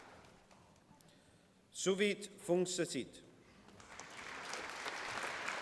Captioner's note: applause